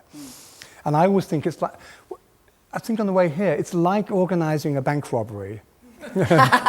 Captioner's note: laughter